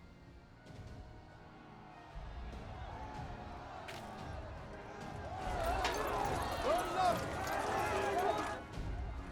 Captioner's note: crowd cheering